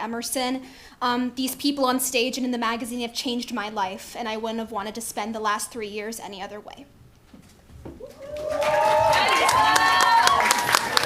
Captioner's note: applause